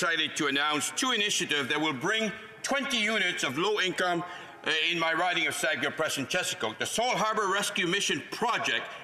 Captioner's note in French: voix de l'interprète